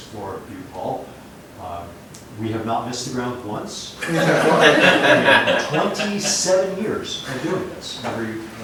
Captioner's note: laughter